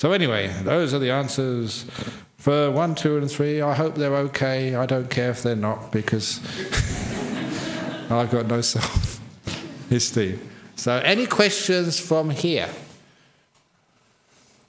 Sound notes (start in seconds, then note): 6.5 laughter